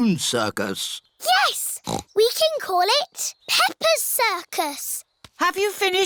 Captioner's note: snorts